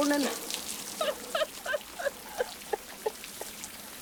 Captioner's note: laughing